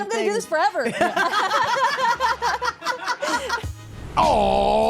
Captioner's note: all laugh